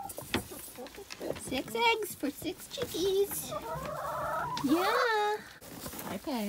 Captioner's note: chickens all squeal